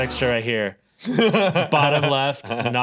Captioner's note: laughs